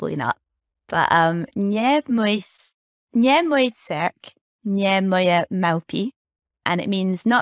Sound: in Polish

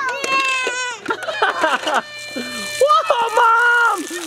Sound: laughs; water splashing

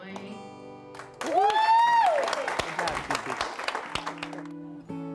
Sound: loud cheers and applause

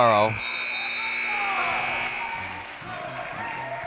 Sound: timer buzzes

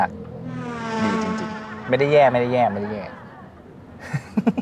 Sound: laugh

